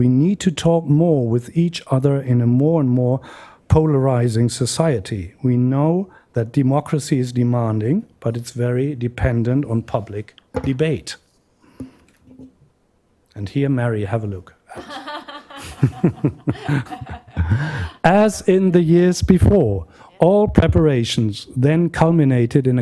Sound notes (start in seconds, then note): 14.7 laughter